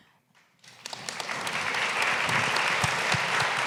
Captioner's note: applause